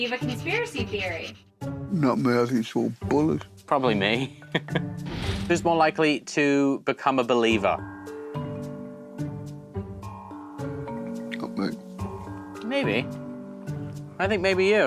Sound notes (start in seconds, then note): 4.5 laughs